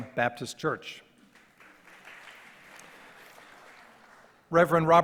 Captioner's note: audience applause